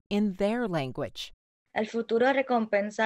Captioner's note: in Spanish